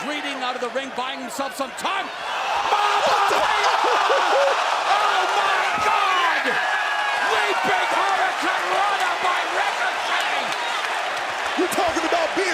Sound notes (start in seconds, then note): 7.3 cheers and applause